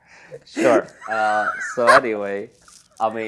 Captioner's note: laughs